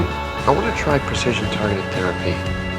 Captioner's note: voiceover